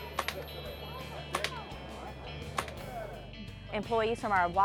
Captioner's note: BB gun shots